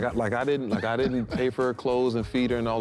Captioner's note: laughing